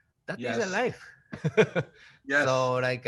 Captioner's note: Takashi laughing